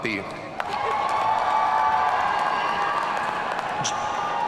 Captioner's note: audience cheering